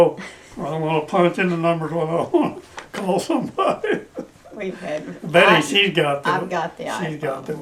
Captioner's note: laughter